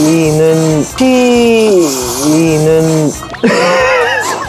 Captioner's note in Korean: 호로로로로록